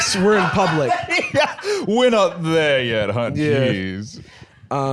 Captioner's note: laughs